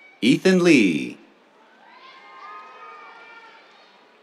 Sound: cheers

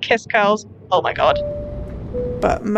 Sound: airplane seatbelt chime

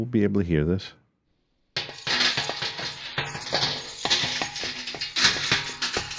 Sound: jangling sounds

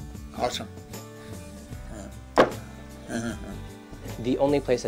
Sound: laughs

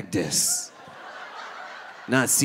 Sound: audience laughing

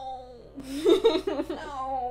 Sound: laughter

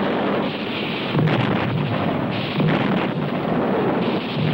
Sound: explosion booming

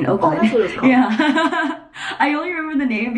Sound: laughs

